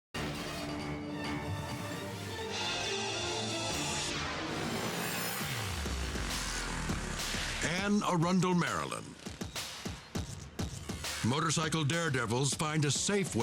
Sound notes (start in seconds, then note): 0.1 dramatic music; 3.8 logo swooshing